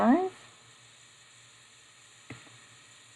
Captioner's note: silence